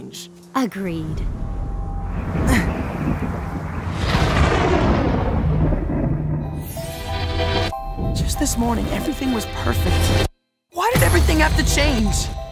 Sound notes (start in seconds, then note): 1.2 ominous hum, wind whipping, Steven grunts; 3.7 low noises of ship descending as clouds part